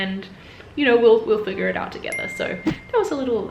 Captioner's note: bell dinging